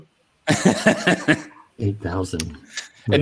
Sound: laughing

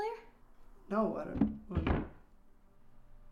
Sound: distant thud

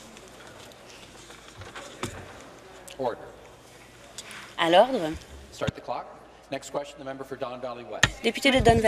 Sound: conversation din

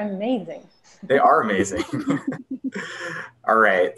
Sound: laughs

